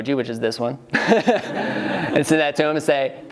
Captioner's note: laughing